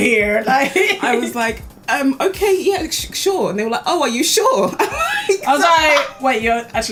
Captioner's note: laughs